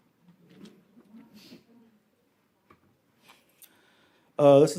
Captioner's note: audience chuckles